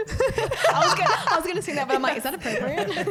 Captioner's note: laughing; voice muffled